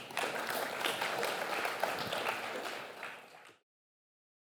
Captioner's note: applause